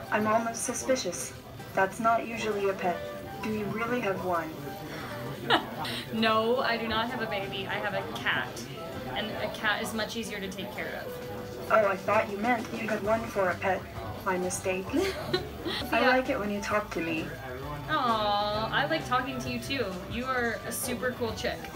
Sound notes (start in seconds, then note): 4.9 laughs; 14.9 laughs